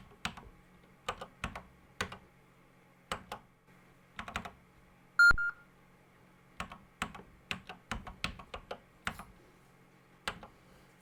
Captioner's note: typing on a C64 keyboard